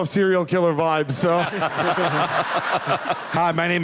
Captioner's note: laughter